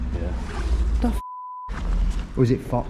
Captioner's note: beep